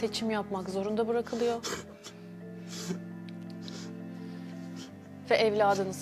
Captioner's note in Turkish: homurdanır